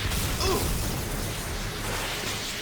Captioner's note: grunting